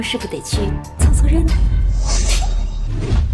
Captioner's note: crash